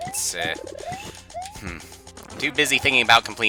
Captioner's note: breathing